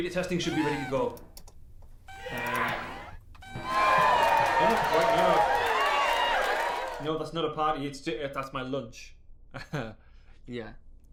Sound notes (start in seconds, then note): 2.1 person shouting; 2.2 computer chiming; 3.5 crowd cheering; 9.7 chuckling